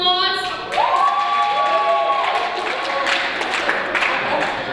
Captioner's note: cheering and applause